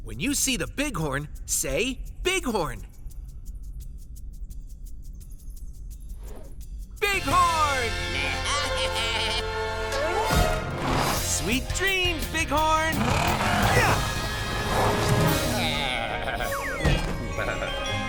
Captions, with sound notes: When you see the bighorn, say "bighorn". Bighorn! [bleating] Sweet dreams, bighorn.